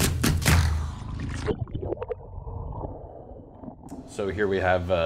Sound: energetic drum music; water gurgling

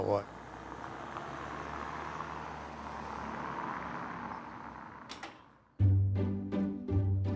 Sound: vehicle engine

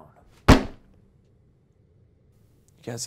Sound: slamming

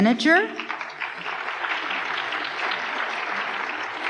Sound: applause

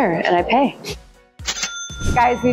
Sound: cash register dinging

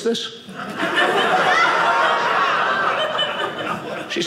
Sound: audience laughing

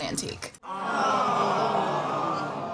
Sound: crowd

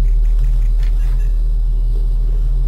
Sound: clink

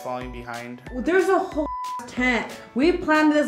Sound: beep

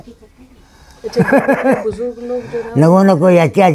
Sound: laughs

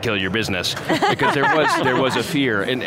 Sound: laughter

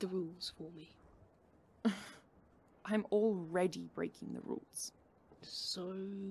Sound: Regulus scoffs

